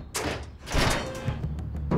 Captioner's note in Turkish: Kapı Açılıyor